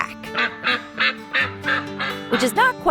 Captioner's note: Pam quacking